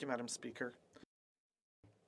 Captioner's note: speaking French